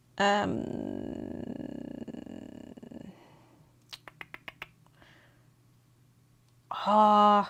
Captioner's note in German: stöhnen